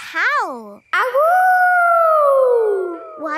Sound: howling

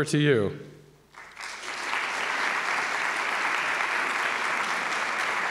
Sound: audience applauds

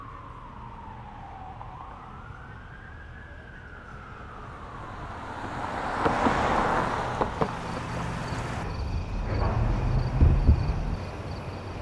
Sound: siren wails

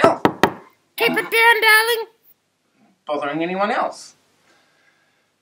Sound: knock knock

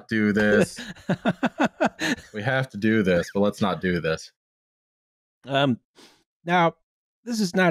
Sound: laughs

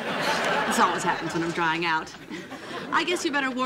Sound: sighing

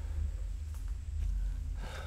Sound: distant branch snaps

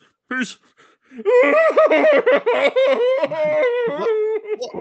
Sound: bursts out crying

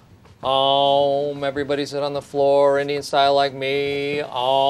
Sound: still chanting

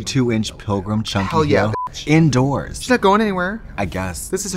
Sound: beep

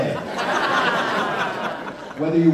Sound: laughter

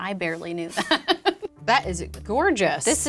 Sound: laughing

